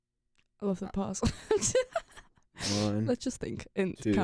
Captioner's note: laughs